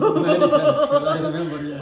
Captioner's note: both laugh